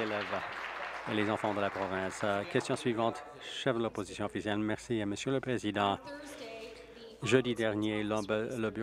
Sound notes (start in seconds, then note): 3.7 applause